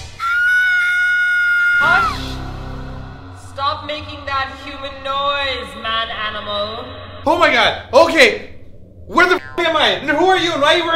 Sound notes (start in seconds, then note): 0.1 screams like a little girl; 2.2 echoing voice